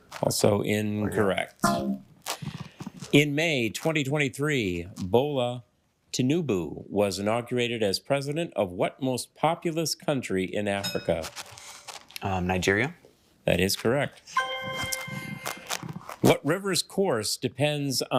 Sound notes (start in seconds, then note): 14.3 triumphant chime